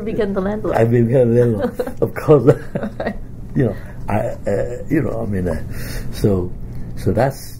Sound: laughs; both laugh

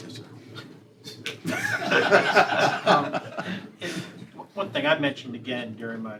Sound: laughter

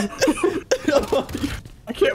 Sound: laughter

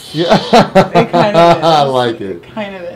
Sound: laugh

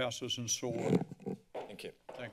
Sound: gavel tapped against the lectern

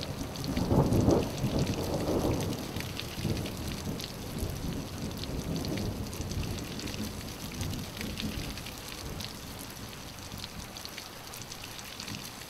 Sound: thunder echoes; rain

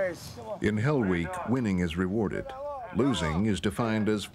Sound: voiceover

